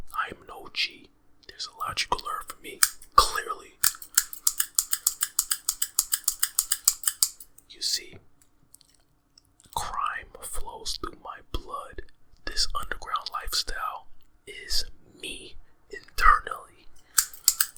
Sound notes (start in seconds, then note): 3.8 shears clanking